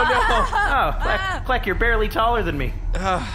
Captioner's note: Nermut makes a horrified noise; laughs in terror